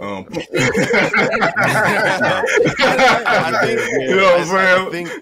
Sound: all laughing

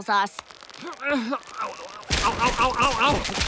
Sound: grunting

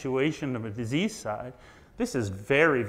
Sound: none

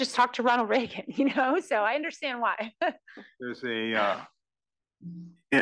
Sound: laugh

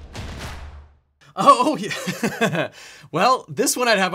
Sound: upbeat instrumental music; laughs

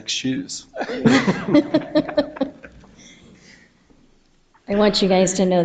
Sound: people chuckle

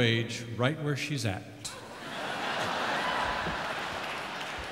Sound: audience laughs

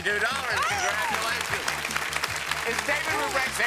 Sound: applause

